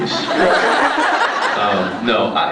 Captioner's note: laughs